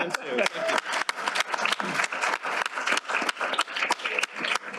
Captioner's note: applause